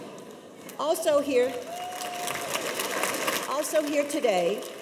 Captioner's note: applause